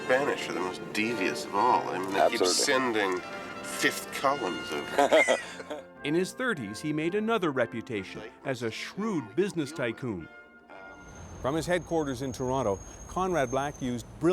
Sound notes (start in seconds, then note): 4.8 man chuckles